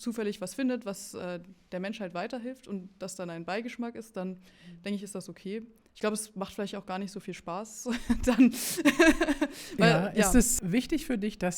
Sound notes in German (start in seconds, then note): 7.9 gelächter